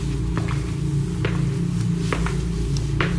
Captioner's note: footsteps